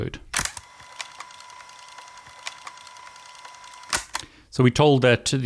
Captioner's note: fast forward whirring